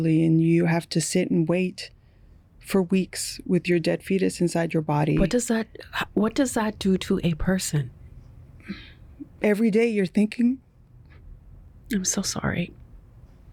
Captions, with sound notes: and you have to sit and wait for weeks with your dead fetus inside your body? What does that-- what does that do to a person? (Voice breaking:) Every day, you're thinking... I'm so sorry.